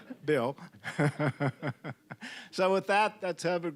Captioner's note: all chuckling